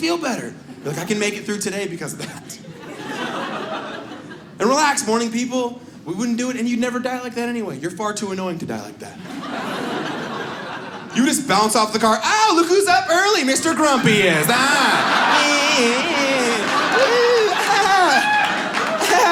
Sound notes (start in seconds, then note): 2.5 audience laughs; 9.2 audience laughs; 15.4 audience laughs